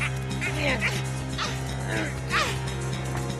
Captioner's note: effort grunts